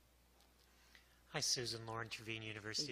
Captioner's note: voiceover